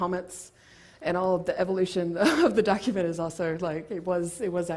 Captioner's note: laugh